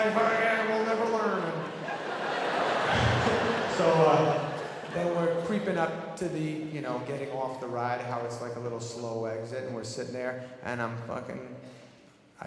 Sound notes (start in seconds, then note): 2.1 audience laughing